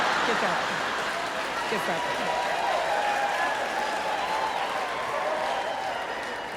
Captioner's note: crowd cheering drowns out speaker's voice